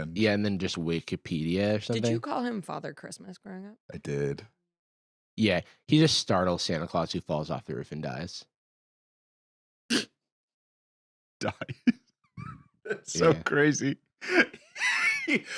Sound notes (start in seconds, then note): 9.9 laughs; 11.4 laughing